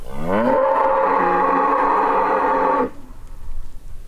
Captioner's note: cow mooing